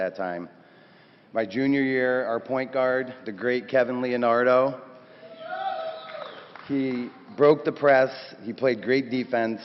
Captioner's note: cheers